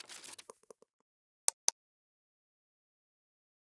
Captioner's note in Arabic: حفيف; نقر